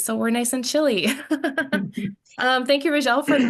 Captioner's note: laughs